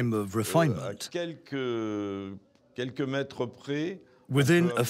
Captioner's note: speaking in foreign language